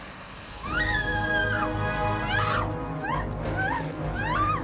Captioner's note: screaming